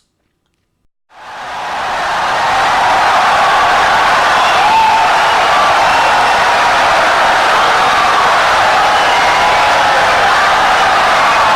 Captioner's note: wild applause and cheering for 17 seconds